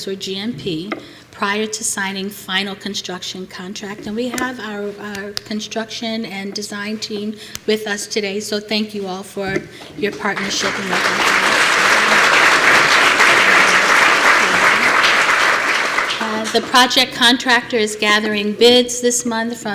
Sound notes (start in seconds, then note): 10.1 applause